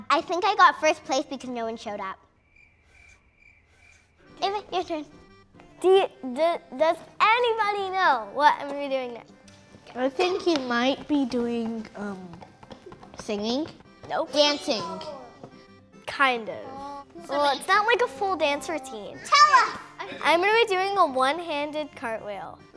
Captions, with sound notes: I think I got first place because no one showed up. (cricket chirps) Anyway, your turn. - Does anybody know what I am going to be doing now? - I think you might be doing singing. - No. - Dancing. - Kind of. It's not like a full dance routine. - Tell us! - I'm going to be doing a one-handed cartwheel.